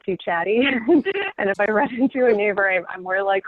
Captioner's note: laughing